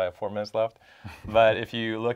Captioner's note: laugh